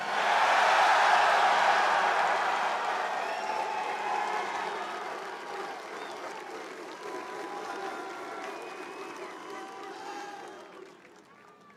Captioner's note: cheers